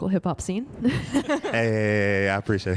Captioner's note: laughing